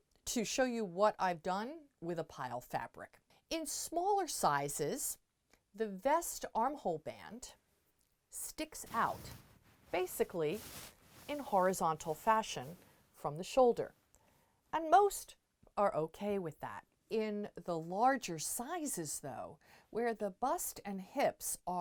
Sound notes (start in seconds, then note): 8.8 mic interference